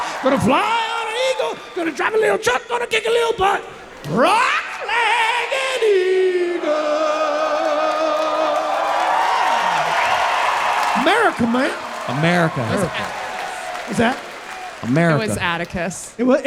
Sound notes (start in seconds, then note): 8.6 audience cheering